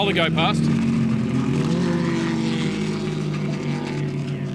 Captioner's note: car engine roars